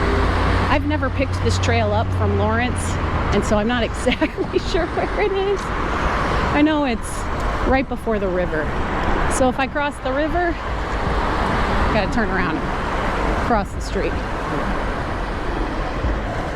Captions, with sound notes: i've never picked up this trail from lawrence [laughing] so i'm not exactly sure where it is i know it's right before the river so if i cross the river i gotta turn around...cross the street